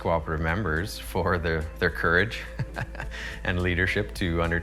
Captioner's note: laughs